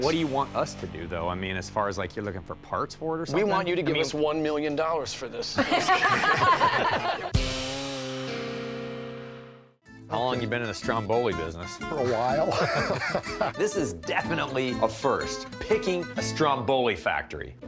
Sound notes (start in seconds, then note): 5.5 laughter; 13.6 pat